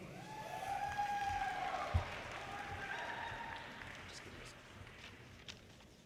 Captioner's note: audience cheers and applause